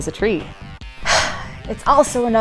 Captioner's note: sigh